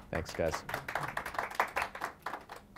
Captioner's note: applause